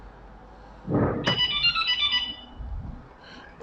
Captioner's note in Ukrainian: звук: автомобіль знято з охорони